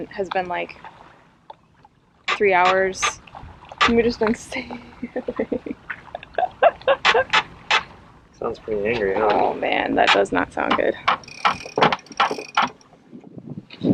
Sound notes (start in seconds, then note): 4.3 laughing